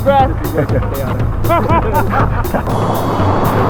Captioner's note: nervous laughter